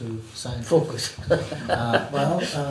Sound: laughs

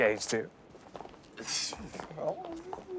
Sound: chuckles; laughs

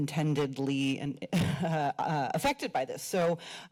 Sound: chuckles

